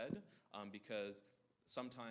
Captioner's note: none